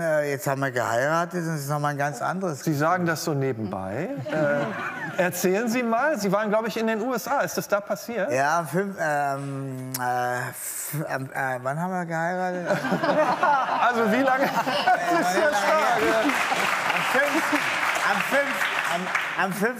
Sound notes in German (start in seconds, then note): 12.7 Lachen; 14.4 Lachen, Applaus